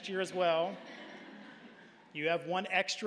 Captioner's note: audience laughing